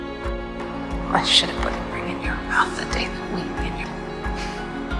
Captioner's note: voiceover